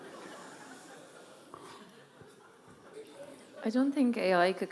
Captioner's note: audience laughing